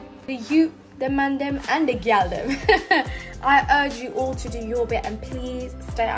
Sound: chuckles

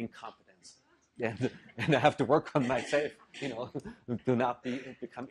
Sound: laugh

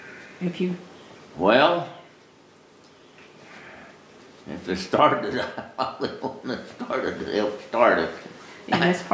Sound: laughter

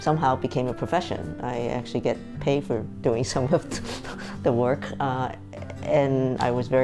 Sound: chuckling

